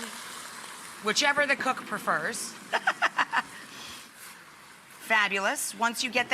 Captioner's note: laughs